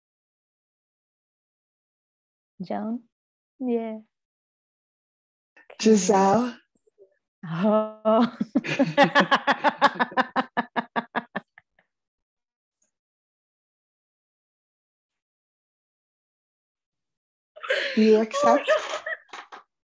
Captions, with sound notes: Joan? Yes. Jozelle. [laughter] Do you accept?